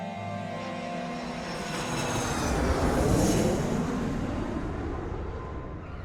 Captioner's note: airplane engine roaring